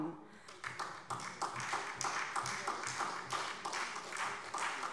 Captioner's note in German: Beifall DIE LINKE